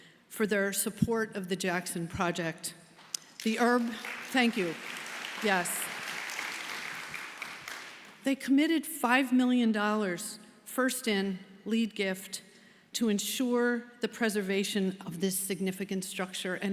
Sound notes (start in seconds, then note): 3.2 audience applauding